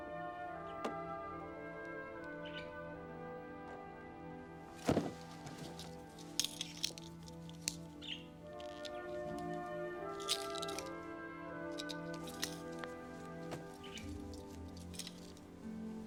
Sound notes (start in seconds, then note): 6.8 tags clanking; 11.2 soft music continues